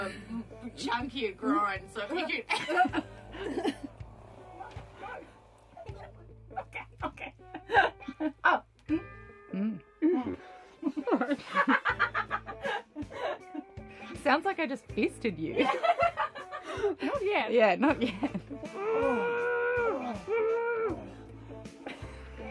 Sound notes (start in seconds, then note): 2.1 laughter; 10.8 laughs; 15.5 laughs; 18.6 grunting